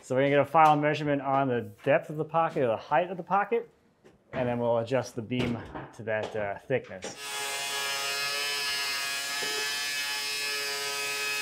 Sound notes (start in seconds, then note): 7.1 saw buzzing